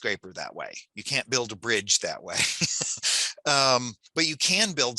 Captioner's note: laughs